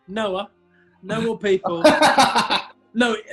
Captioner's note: laughing